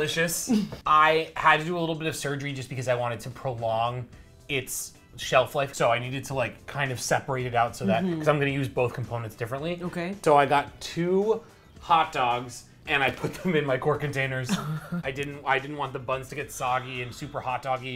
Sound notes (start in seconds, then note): 14.4 laughs